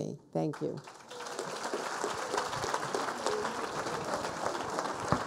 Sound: people applauding

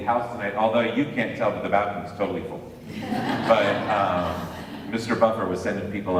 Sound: laughter

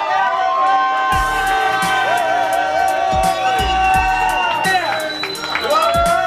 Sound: cheering; upbeat music

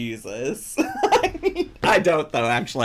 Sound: laughs

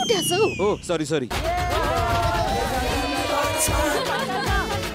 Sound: laughs

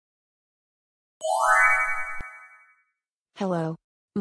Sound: chimes

